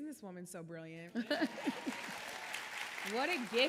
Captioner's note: audience applauding